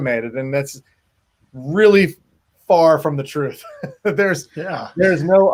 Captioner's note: laughs